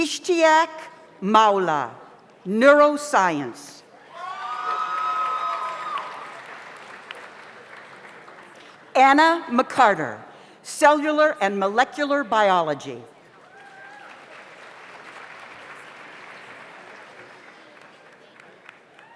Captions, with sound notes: Ishtiyak Mawla, Neural Science. (audience applauds) (audience cheers) Anna McCarter, Cellular and Molecular Biology. (audience applauds)